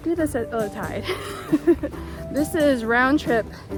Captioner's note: giggles